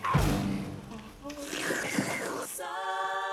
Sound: slurp

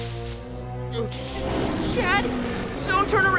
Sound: growling

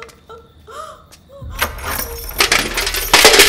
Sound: chain clanks

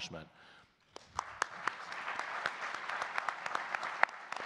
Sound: audience clapping

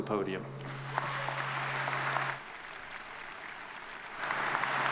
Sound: audience applauds

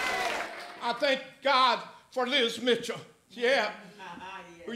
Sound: applause

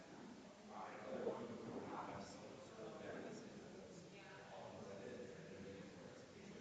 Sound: people chattering distantly continues

